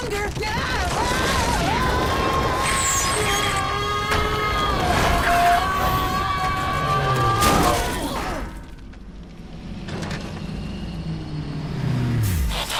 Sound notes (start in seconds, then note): 0.2 rumbling; 1.2 bumblebee yelling; 3.5 yelling